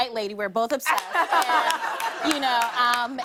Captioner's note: laughter